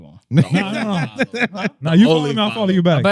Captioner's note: laughing